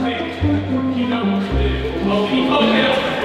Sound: group chatter

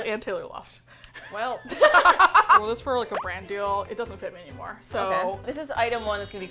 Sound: both laugh

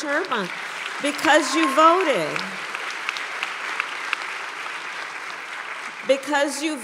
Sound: applause

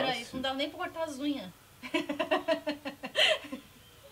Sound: laughs

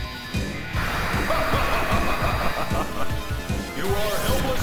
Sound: Magneto laughs

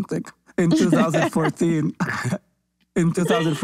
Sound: laughs

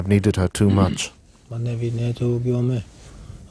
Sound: foreign spoken audio

